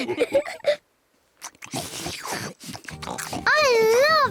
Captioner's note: all laugh; all munch